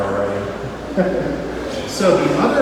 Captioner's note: laughs